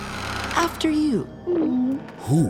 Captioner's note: gulping